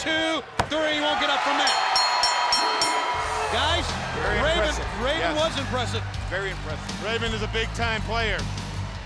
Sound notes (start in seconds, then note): 1.6 bell ringing; 1.8 lively music